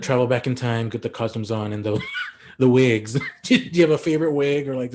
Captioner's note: chuckles